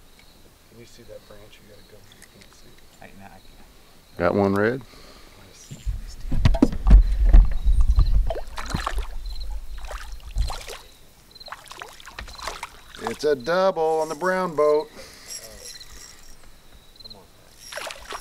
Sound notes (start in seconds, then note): 9.8 splash; 17.6 splash